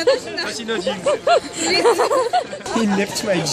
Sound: laughs

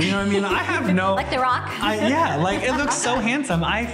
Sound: laughs

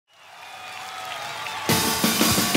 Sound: crowd applauding

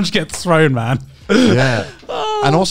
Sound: laughing

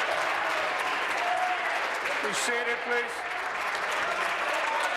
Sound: applause

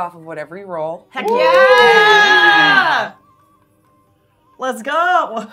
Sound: gamers cheering

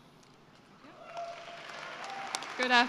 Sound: cheering and applause

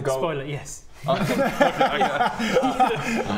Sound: no-pressure giggles

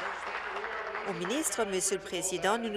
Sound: applause

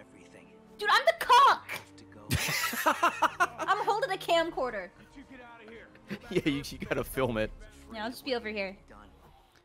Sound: laughs

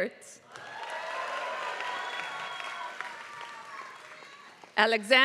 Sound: applause

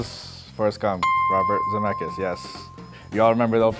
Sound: dings

